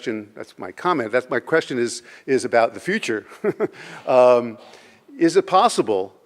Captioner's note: laughs